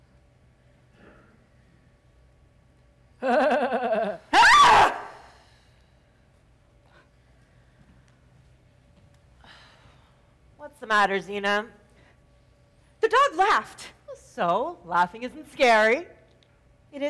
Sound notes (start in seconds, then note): 3.3 dog loudly chuckles; 4.3 Zina loudly screams